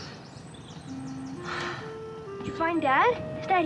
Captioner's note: sighs